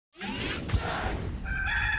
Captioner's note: mechanical noises; rooster crowing